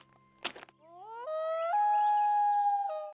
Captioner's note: animal howls